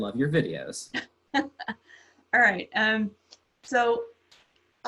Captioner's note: laughs